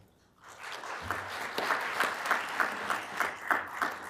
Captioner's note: applause